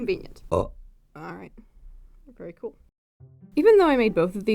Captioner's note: burp